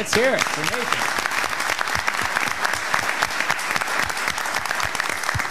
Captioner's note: audience clapping